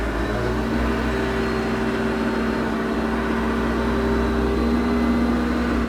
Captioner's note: telehandler engine revving